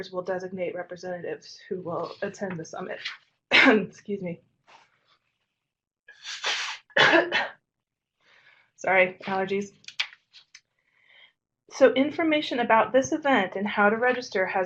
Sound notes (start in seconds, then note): 3.5 coughs